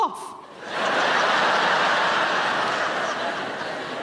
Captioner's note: audience laughs